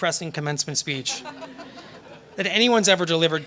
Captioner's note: laughter